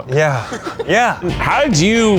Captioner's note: laughing